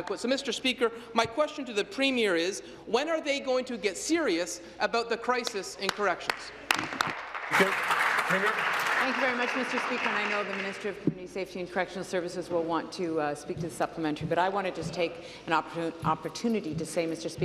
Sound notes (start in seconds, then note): 10.2 applause